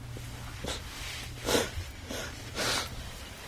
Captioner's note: sobs